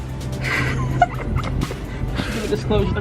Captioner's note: laughs